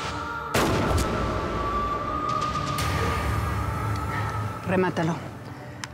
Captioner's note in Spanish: detonación de disparo